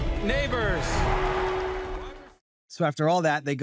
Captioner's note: audience cheers